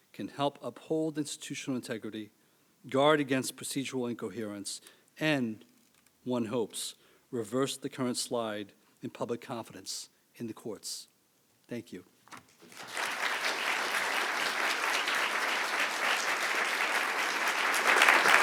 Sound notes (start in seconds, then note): 12.6 audience clapping